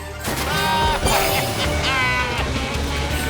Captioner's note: baaing